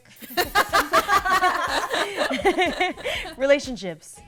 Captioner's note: laughter